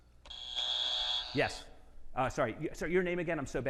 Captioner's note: buzzer buzzing